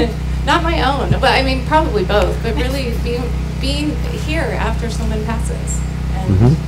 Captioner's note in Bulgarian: смях